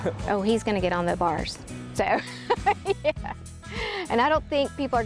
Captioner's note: laughing